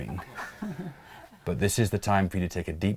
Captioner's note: laughs